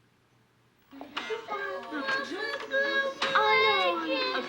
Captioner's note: allison crying